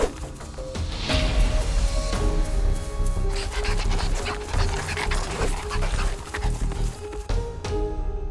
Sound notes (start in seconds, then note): 3.6 wolves breaths heavily